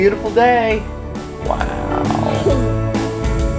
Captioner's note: laughter